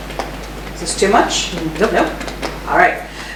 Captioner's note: tapping